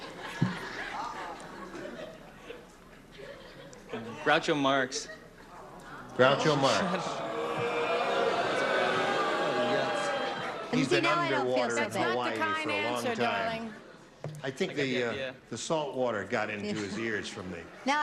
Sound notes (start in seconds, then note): 0.1 laughter; 7.6 booing